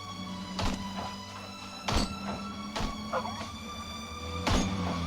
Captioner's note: calm music; gunshots popping